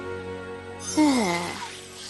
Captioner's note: groan